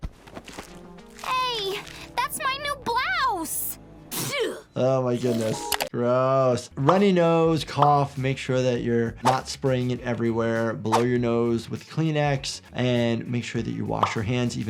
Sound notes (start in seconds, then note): 4.1 Ben sneezes